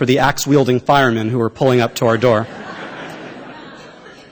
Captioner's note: laughter